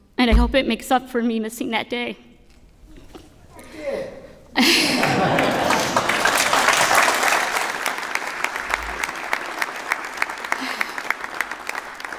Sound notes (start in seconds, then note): 4.5 laughter; 4.9 applause